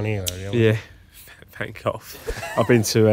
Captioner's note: laughs